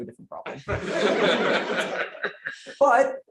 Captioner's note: laughter